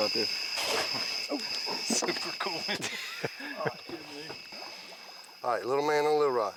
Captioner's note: laughing